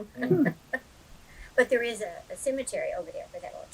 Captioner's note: laughs